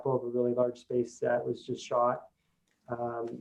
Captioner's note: none